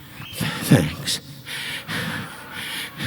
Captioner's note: pants